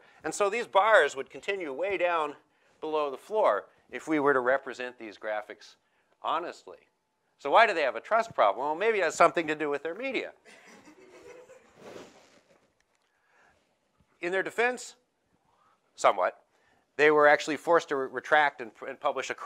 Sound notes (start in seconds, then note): 10.4 laughing